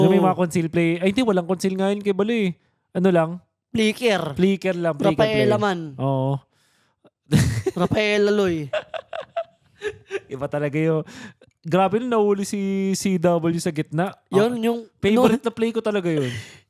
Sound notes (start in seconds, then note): 8.6 laughs